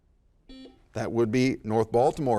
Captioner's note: buzzer dings